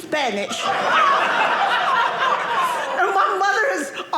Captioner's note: audience laughing